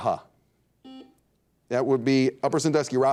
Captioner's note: buzzer dings